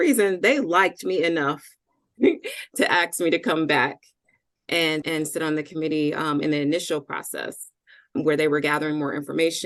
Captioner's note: chuckle